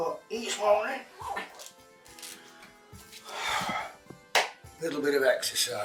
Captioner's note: Barry zips up suit